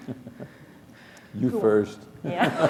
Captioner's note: laughter